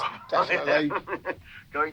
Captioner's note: laughs